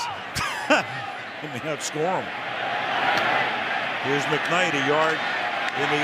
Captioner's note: laughs